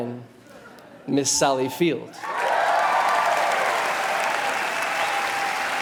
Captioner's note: audience cheers